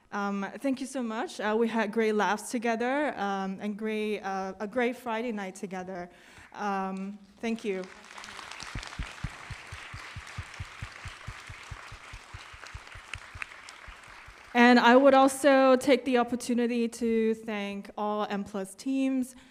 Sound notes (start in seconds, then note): 7.5 applause